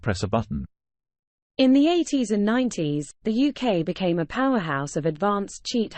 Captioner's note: british female voice